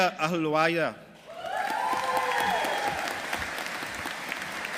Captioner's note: audience applauding